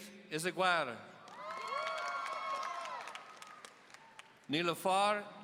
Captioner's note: audience cheering